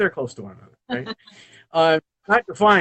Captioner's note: laughs